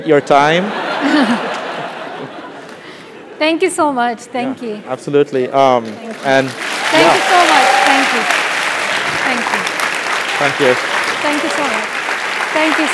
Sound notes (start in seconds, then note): 0.8 laugh; 5.8 applause